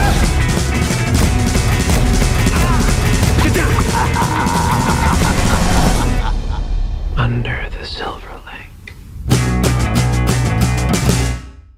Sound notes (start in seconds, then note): 0.0 thunder crashing; 4.5 maniacal laughter; 9.8 pop music